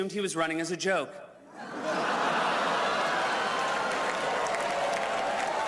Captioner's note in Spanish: risas